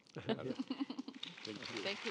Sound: panelists laughing

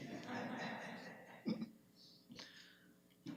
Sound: group chuckling

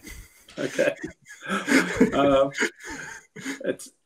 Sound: all laughing

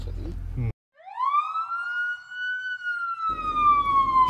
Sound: police siren

